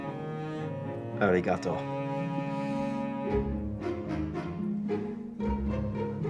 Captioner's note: Jack speaks foreign language